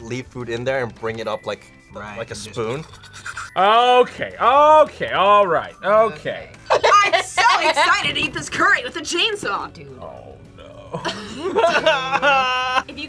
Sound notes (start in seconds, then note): 2.4 slurps; 10.8 group laughs